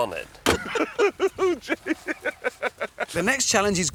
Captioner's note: laughing continues